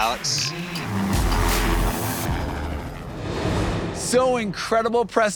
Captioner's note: helicopter engine roaring